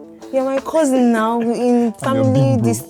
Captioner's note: laughs